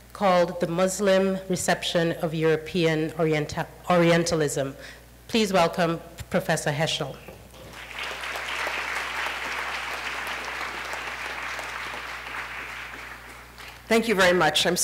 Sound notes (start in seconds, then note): 7.6 applause